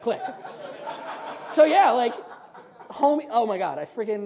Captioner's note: audience laughs